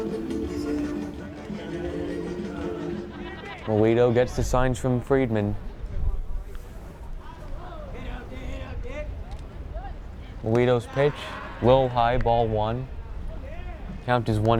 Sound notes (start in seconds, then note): 0.3 singing in foreign language; 8.7 player yells in foreign language